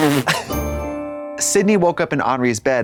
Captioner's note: bright chime